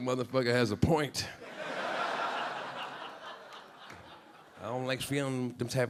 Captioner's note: audience laughing